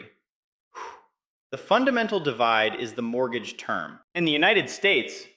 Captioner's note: exhales